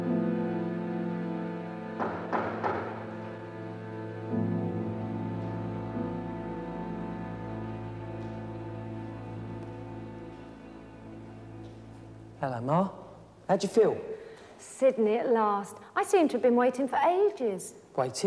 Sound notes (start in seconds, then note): 1.9 knocking on door